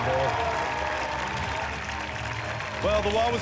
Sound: applause

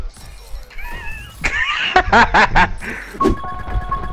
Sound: laughing

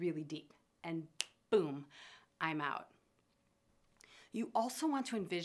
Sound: fingers snap

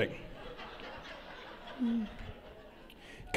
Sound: laughter

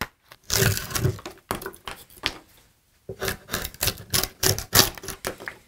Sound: splintered wood crunching

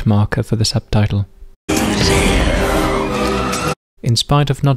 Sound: whispering

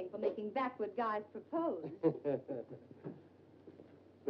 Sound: Dr. Manetta chuckles

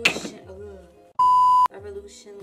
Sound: beep

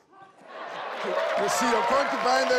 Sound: cheering

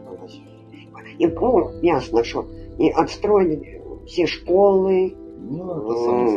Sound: speaking Ukrainian

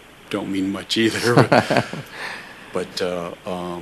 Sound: laughter

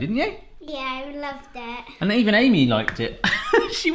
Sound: laughing

